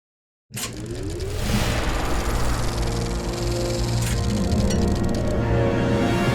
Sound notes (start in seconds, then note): 1.8 projector sound